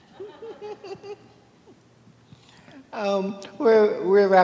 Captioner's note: laughing